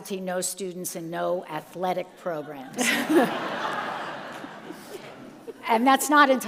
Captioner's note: all laugh